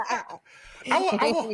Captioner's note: laughter